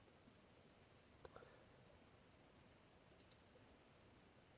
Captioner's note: mouse clicking